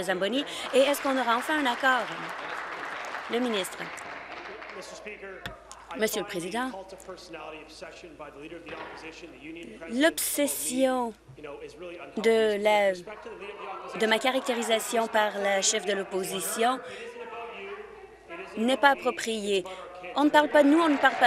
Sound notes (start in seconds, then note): 3.9 applause